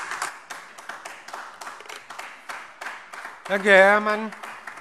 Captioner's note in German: Beifall AfD